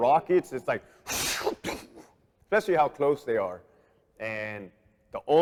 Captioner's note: imitates rockets whizzing